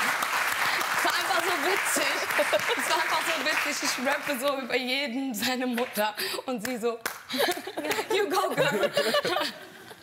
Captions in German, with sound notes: Das war einfach so witzig. Das war einfach so witzig, ich rappe so über jeden seine Mutter, und sie so ... (Gelächter) You go, girl!